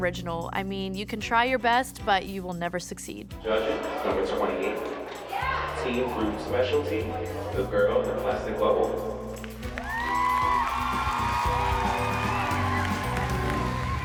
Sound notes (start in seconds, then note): 9.7 cheering